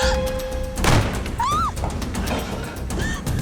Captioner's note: gasps; gun shot; scream; grunting